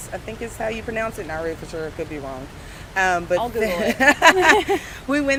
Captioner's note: laughs